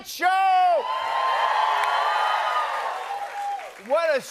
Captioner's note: cheers and applause